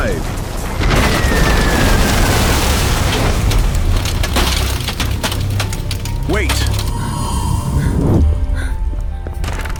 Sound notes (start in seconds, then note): 0.9 door bursts open; 8.8 footsteps